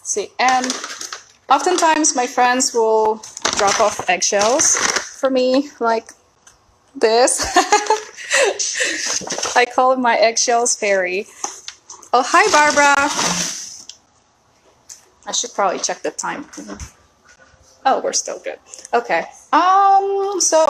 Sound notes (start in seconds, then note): 7.4 laughs